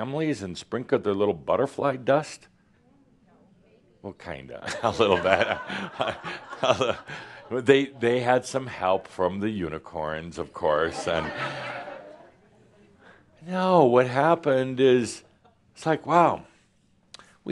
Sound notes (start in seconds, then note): 7.3 laughter; 10.9 more laughter